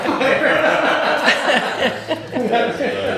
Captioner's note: laughing